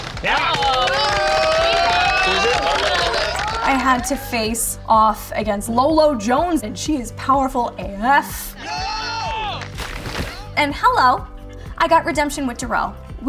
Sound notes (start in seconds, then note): 0.0 all clapping and cheering; 8.5 all cheering; 9.5 water splashes